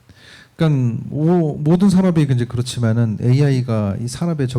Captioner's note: speaking korean